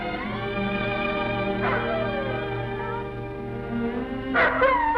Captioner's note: wolf barks; wolf barks & howls